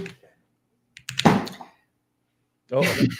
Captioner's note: thud